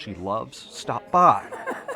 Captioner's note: laughing